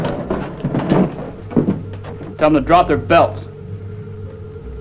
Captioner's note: speaking German